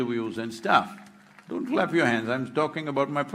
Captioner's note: cheering/Applause